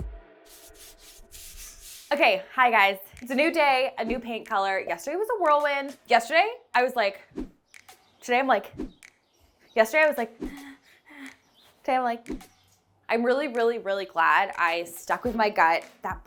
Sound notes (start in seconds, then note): 8.7 effect whooshing; 10.7 pants; 12.2 effect whooshing